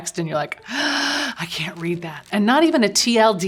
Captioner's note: gasp